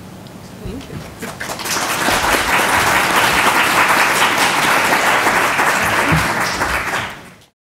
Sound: applause

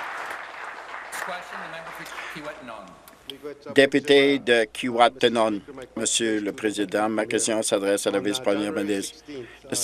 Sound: applause

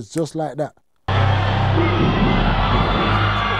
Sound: screaming

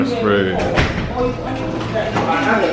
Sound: guests chattering

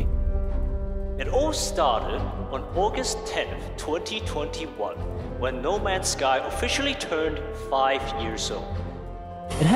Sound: echoing

